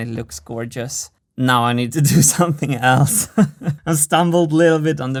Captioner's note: chuckles